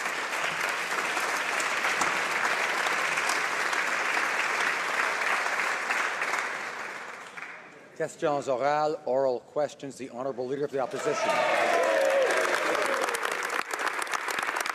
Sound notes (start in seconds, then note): 3.1 applause